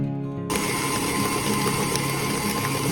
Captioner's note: stand mixer creaming butter and sugar